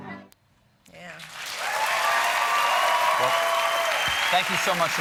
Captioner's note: applause